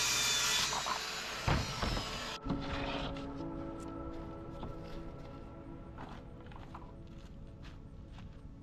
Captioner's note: drill whirring; soft music